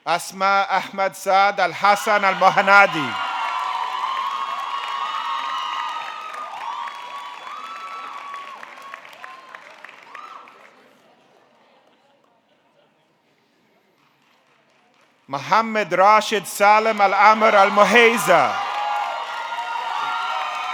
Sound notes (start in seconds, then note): 3.3 audience cheering; 3.3 audience clapping